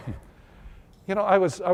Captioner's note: laughter